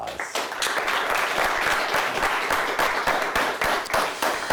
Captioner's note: audience applauds